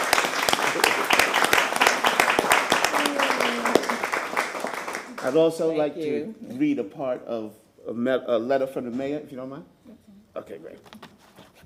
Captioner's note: applause